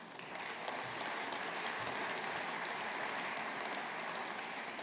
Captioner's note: audience applauding